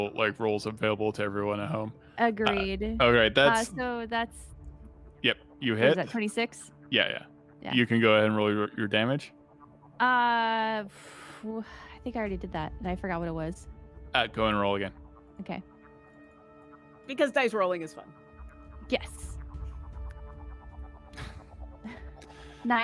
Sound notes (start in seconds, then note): 11.0 exhales heavily; 20.0 players laughing